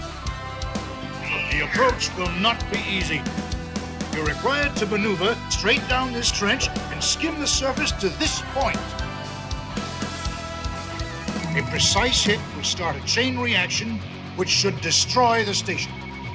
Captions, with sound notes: [droidspeak/Binary, "whfeeeeeeeeeelll!"] But the approach will not be easy. You're required to maneuver straight down this trench, and skim the surface to THIS point. A precise hit will start a chain reaction, which should destroy the station.